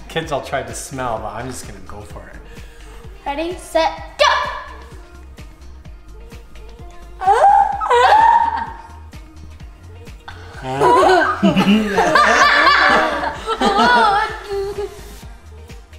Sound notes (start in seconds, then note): 7.2 yelping; 10.5 giggling